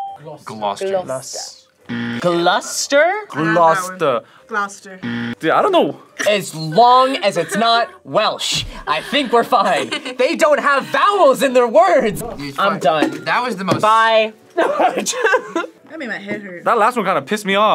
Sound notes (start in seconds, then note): 5.0 buzzer rings; 10.2 laughs; 14.6 laughs